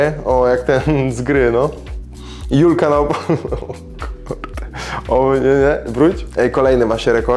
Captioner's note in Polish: śmiech